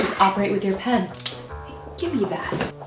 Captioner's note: pen click